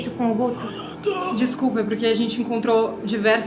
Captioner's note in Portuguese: gemidos